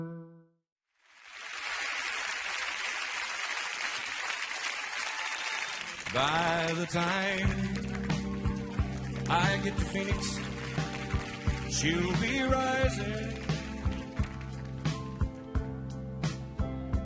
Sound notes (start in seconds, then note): 1.0 audience apapplauding